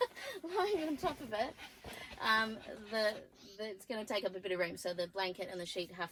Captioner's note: laughs; dog pants loudly